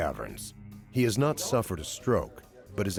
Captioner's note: voiceover